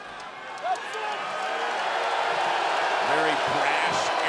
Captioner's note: audience cheering